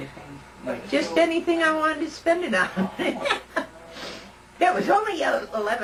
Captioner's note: laughter